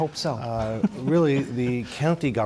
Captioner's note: laughter